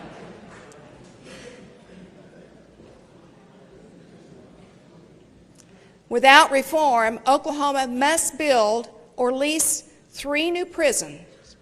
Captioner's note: laughter